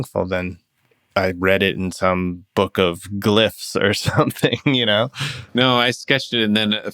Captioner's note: laughter